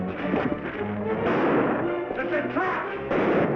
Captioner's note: gunshot bangs